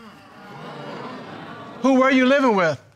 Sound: audience murmuring

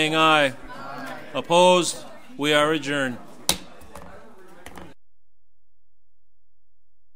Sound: overlapping chattering

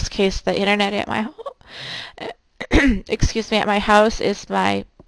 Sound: clearing throat

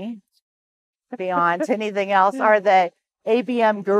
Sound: chuckles

